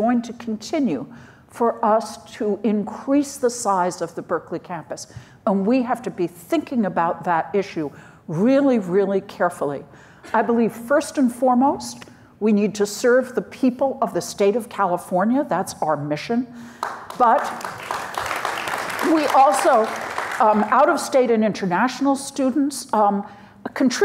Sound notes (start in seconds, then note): 16.8 audience applauds